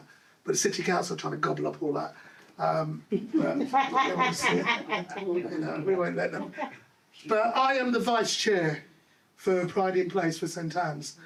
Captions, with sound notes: But the city council are trying to gobble up all that. (laughing) We won't let them. But I am the vice chair for Pride In Place for St. Ann's.